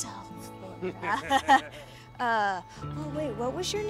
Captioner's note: sighs; both chuckle